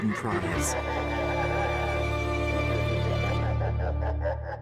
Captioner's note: ominous laughter